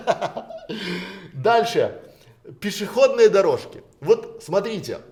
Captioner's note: Смеётся